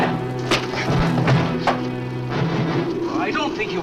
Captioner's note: fist thuds